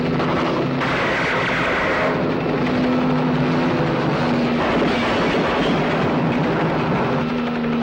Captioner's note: gunshot pops; helicopter roaring; gunshots popping